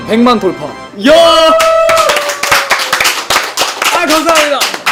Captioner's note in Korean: 스태프들의 환호